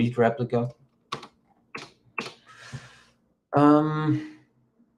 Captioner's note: keyboard clicks